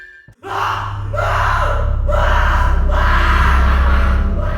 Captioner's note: screaming